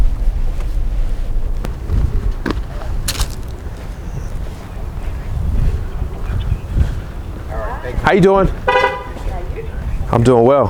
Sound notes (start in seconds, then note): 2.5 leaves crumple